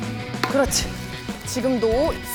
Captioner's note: hitting